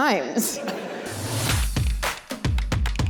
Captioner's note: audience laughter